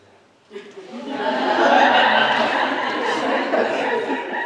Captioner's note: laughter from audience